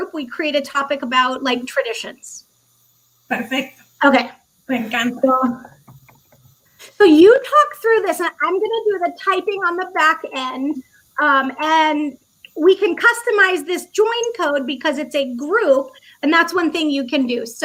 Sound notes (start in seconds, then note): 4.4 speaking foreign language